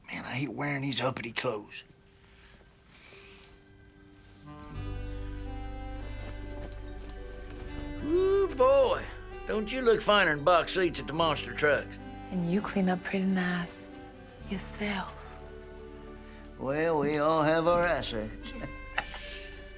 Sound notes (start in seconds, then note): 12.6 with new orleans accent